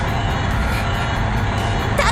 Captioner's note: wince